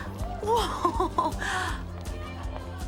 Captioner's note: Mischa laughs